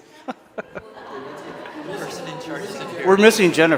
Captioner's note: laughter